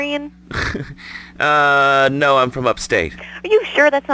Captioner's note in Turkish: güler